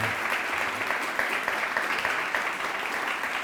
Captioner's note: applause